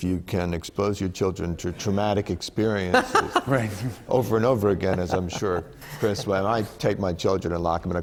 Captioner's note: laughter